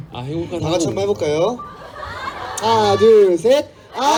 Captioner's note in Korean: 웃음